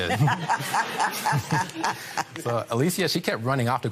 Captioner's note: laughter